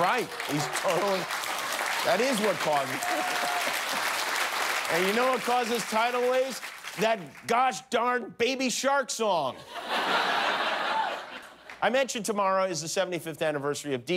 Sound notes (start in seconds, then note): 7.4 applause